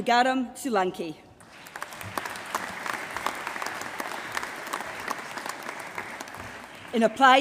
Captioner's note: applause